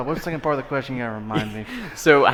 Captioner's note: laughing